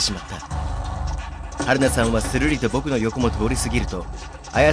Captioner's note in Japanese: 走る足音：タタタタ...！